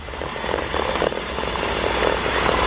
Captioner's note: shaking noises